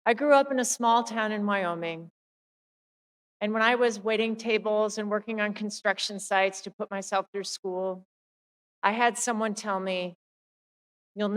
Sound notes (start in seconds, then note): none